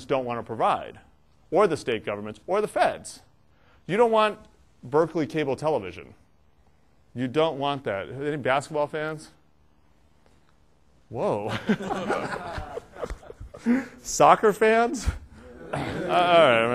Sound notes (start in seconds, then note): 11.5 laughter